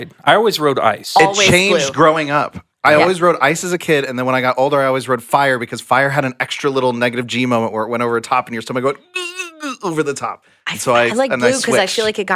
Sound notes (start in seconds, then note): 9.0 grunts